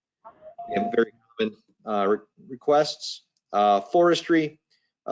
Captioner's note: microphone breaks up